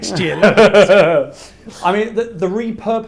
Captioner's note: laughs